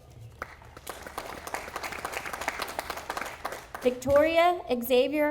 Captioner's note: audience applauding